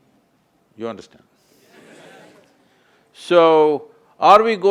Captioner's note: audience expresses assent